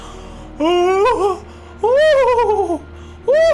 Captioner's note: gasps; crying